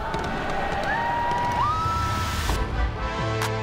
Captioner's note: crowd cheering; upbeat music